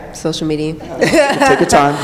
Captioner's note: laughter